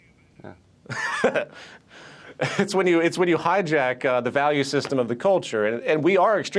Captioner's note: laughs